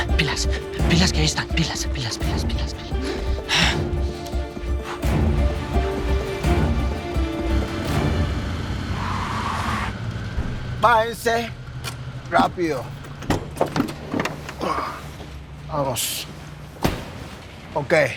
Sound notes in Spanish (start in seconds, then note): 7.7 Ruido del vehículo